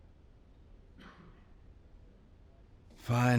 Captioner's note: coughs